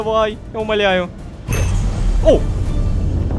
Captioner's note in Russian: Страшный звук